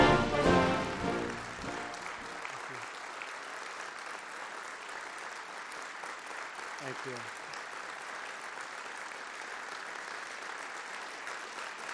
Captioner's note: applause